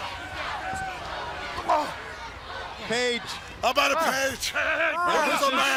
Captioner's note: crowd cheering